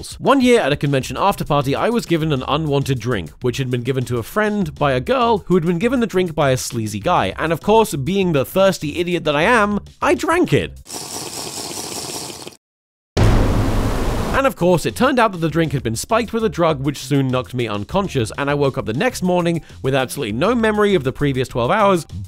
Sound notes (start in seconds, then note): 10.8 drinking; 10.9 dramatic music